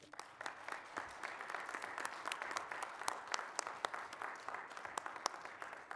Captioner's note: applause